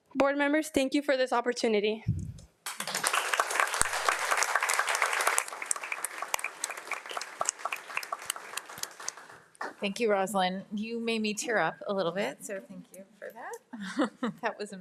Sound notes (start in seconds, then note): 2.6 audience applauds